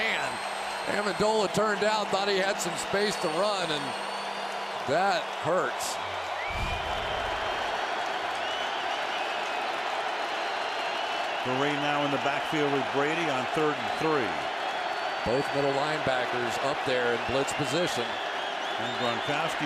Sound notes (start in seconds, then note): 6.4 cheering